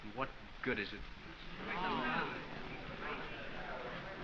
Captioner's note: students murmuring